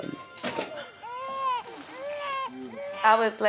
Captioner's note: baby cries continues